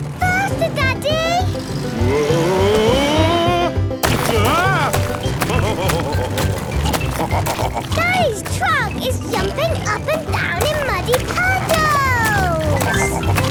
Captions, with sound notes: - Faster, Daddy! - Woah! Ah! (laughing) - Daddy's truck is jumping up and down in muddy puddles!